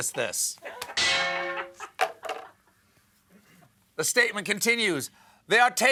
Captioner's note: laughter